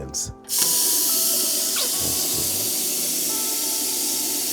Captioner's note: water rushing